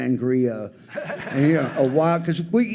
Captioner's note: audience laughs